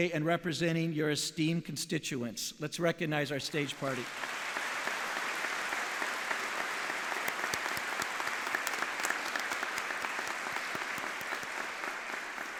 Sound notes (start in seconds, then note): 7.3 audience applauding